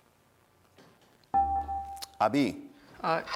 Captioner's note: dinging